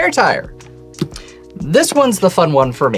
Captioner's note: thumps table